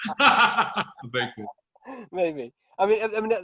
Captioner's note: both laughing; murmurs